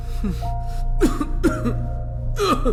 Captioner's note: coughs